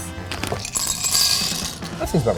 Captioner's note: clattering